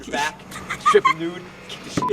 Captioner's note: laughing